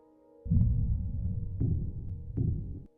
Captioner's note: heart beating